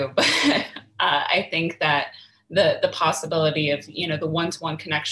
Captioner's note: chuckles